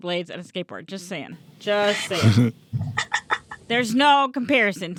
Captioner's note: laugh